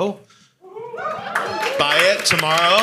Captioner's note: audience cheering